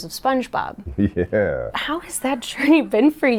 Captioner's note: laughing